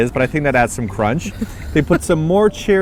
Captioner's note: laughs